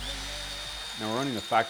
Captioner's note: machine whirring